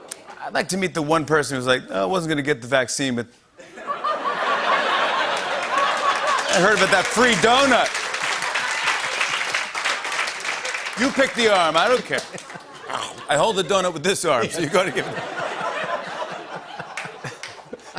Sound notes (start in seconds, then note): 3.6 laughter; 7.9 applause; 14.4 laughter